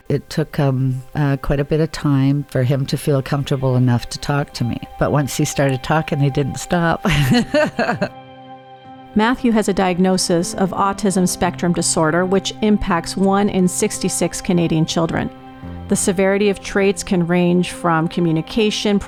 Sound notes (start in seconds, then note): 7.0 laughs